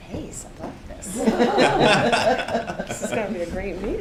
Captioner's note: laughter